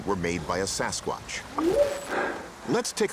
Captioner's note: whooping sound